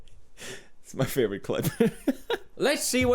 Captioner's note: laughs